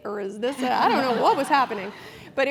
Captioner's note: laugh